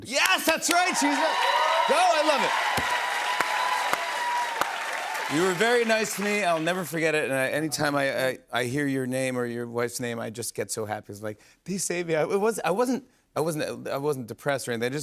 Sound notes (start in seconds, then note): 2.6 cheers and applause